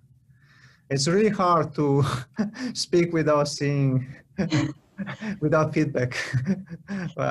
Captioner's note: laughter